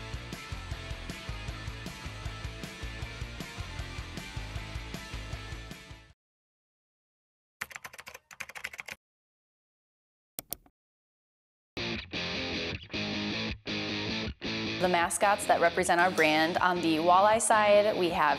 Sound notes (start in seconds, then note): 0.0 rock music; 7.6 keyboard keys tapping; 11.8 rock music